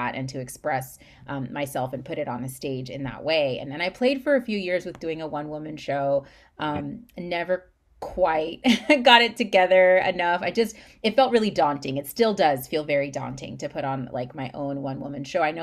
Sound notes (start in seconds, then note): 8.3 laughs